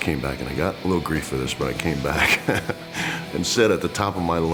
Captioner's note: laugh